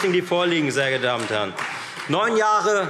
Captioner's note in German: Beifall Freie Demokraten